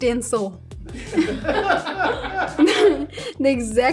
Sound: laughing

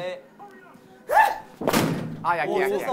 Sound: bam

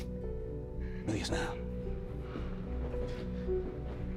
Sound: Spanish

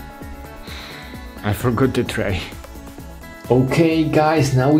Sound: sighs

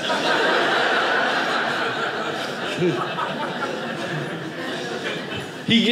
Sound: audience laughing

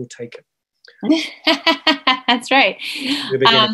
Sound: laughs

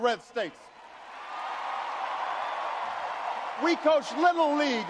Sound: audience cheers and applauds

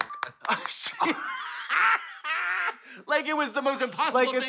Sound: blonde women cackle

